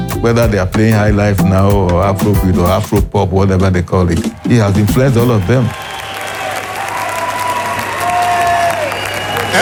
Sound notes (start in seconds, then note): 6.6 all cheering